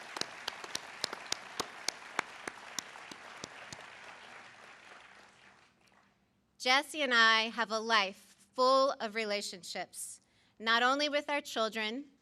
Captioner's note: applause